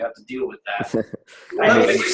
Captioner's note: chuckles